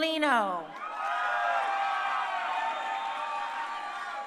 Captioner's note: crowd cheering